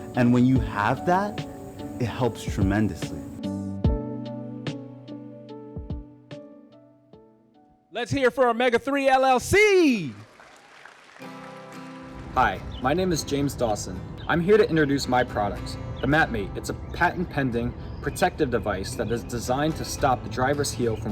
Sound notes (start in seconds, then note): 3.8 upbeat music; 9.8 audience applause